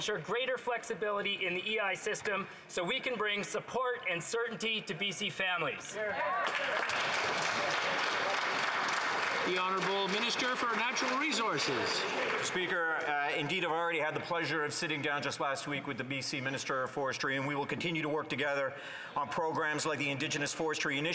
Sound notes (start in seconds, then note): 11.0 some Applause